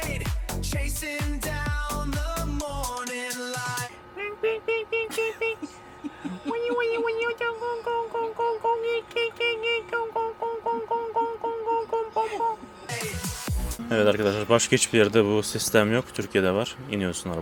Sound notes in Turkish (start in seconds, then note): 5.0 kahkaha